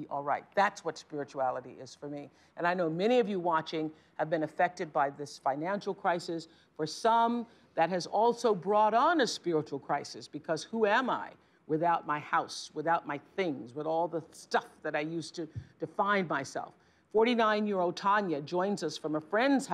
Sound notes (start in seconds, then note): none